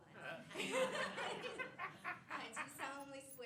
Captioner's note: laughter